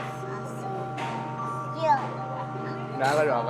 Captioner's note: none